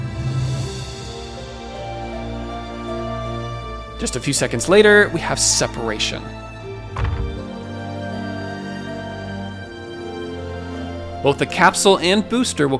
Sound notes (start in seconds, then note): 0.1 soft dramatic music; 6.9 capsule thuds; 7.1 soft dramatic music